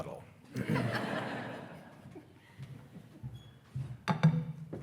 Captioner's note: attendees laughing